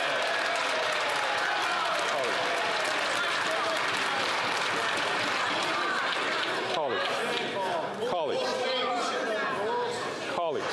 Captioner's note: chatter